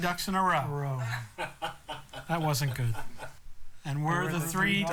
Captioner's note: laughter